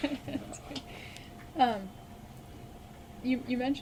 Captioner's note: both laugh